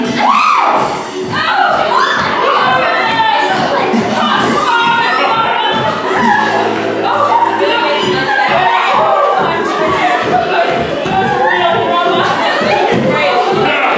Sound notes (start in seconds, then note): 1.4 excited squealing; 4.0 salacious and species-inappropriate murmurs